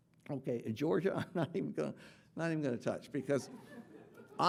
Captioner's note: laughing